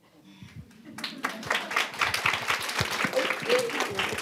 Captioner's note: applause